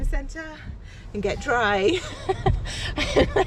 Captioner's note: laughs